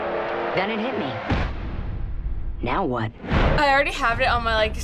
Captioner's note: boom